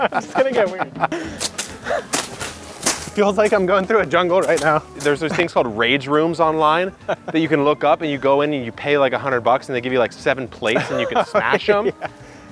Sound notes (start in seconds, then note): 2.0 machetes whipping